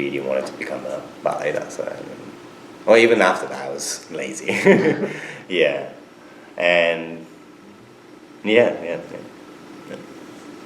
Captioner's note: laughs